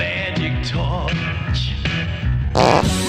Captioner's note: fart sound